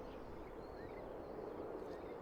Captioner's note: wind